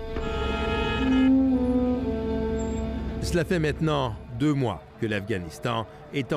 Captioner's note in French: klaxons